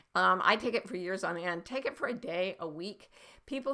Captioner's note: none